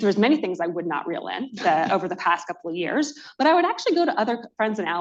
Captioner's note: laughter